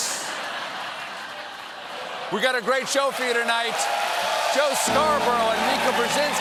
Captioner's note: laughter